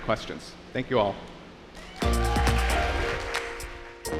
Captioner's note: applause